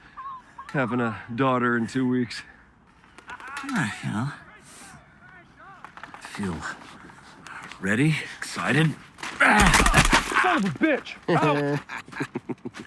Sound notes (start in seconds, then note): 9.6 paintball gunfire; 11.3 both laugh